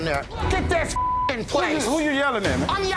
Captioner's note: beep